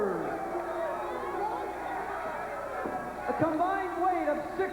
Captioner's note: crowd cheering